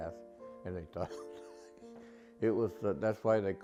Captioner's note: laughs